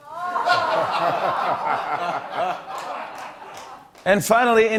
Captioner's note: laughter